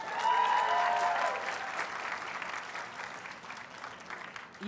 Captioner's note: audience cheers and applauds